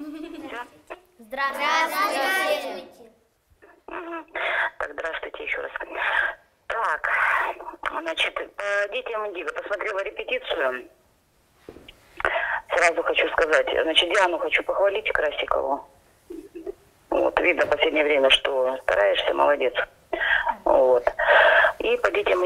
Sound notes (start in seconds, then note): 2.7 kids are speaking all together